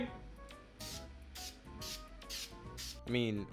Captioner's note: spraying